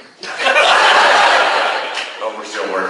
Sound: class laughs

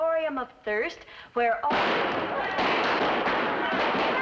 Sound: gunshots

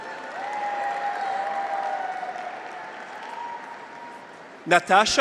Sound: graduates cheer; audience applauds

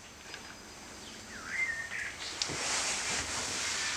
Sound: birds chirping

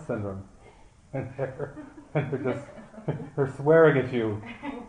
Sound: laughter

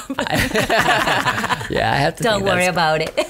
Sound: laughs

